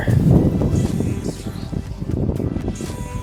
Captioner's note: wind whooshing